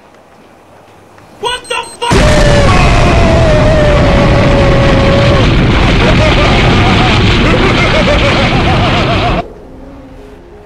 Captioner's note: WTF Boom Sound Effect